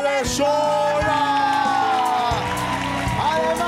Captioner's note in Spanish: Aplausos